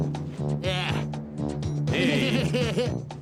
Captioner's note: laughs